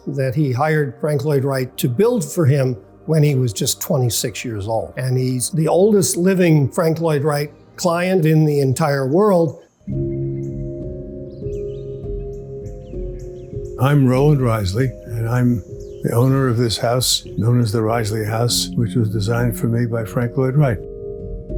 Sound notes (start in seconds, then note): 10.0 birds chirping; 10.0 gentle music